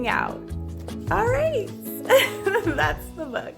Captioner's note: laughs